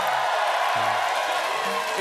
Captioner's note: cheers and applause